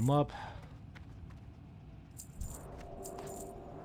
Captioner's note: footsteps